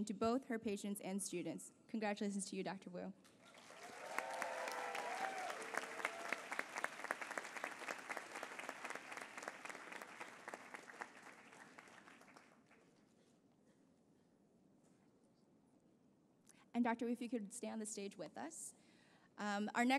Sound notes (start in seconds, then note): 4.9 applause